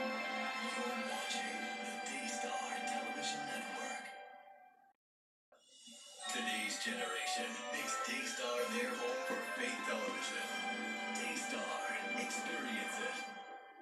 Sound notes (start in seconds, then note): 1.5 on TV; 6.9 on TV